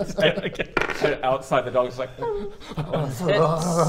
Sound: whine

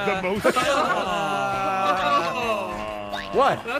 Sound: collective disgust

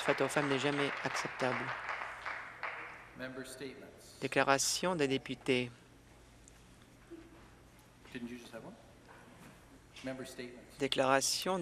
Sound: some Applause

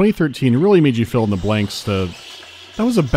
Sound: bat shrieking

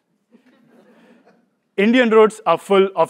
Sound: laugh

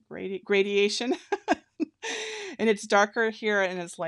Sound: laughing

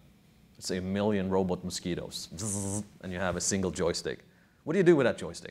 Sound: buzzing sound

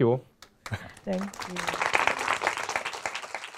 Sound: applause

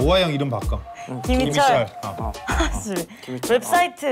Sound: laugh

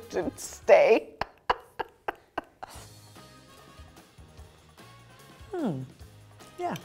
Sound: continues laughing

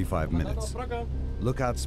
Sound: speaking german

